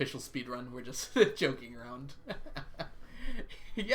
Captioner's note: laughs